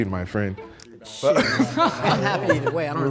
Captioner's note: group laughs